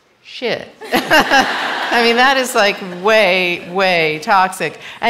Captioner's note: laughter